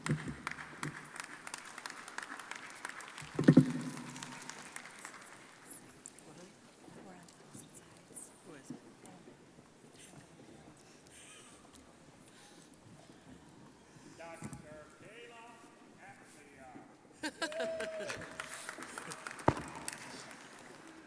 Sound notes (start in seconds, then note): 0.0 crowd applauding; 5.4 crowd chattering; 17.2 crowd laughs and applauds